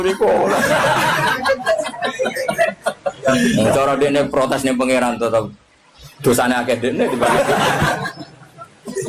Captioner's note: laughs